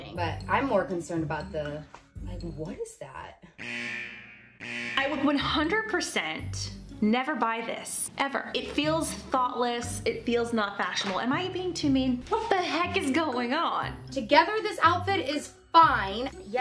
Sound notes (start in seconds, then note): 3.6 alarm buzzer blaring